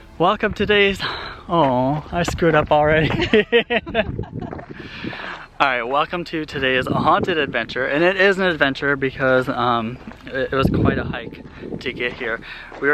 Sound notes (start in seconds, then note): 3.1 laughing